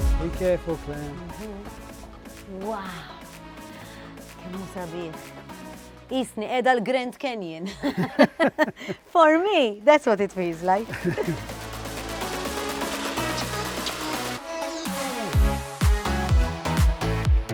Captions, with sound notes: -Be careful, Clare! -Wow! How beautiful! I am in the Grand Canyon! [both chuckle] That's what it feels like! [both chuckle] [uplifting music]